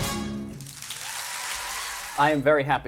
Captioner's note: cheers and applause